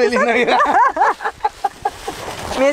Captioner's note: laughter